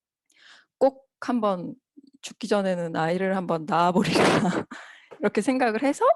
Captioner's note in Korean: 웃음